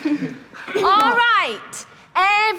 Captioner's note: laughter